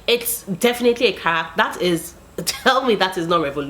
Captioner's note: laughs